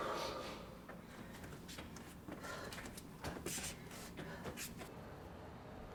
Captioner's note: heavy breathing